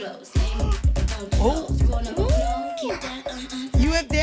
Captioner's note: continual gasps